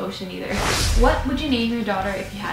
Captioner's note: rush of air